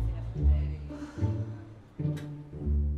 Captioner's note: indistinct chatter; sighs